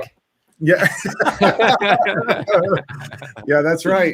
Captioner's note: all laugh